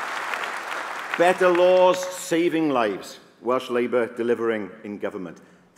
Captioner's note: applause